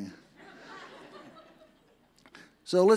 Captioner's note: audience laughs